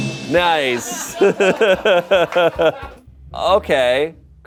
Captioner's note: bell chimes; laughs